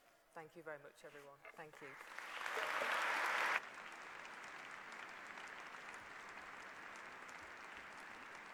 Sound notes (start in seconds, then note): 1.7 applause